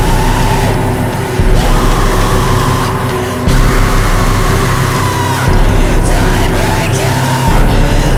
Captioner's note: screams